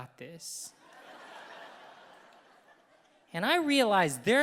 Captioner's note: audience laughing